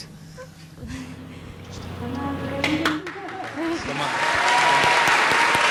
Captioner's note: applause